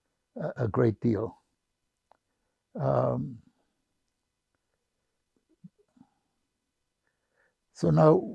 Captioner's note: pauses 6 seconds